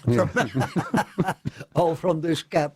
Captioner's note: laughter